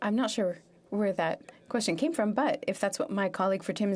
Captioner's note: speaking French